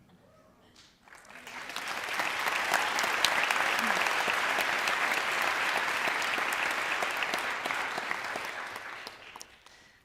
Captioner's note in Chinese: 掌聲